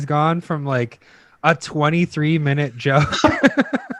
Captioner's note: laughs